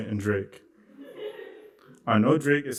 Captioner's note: laughter